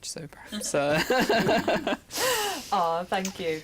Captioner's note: chuckles